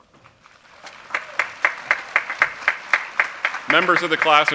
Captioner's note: applause